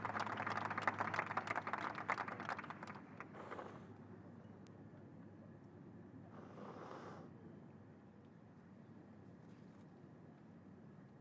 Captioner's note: applause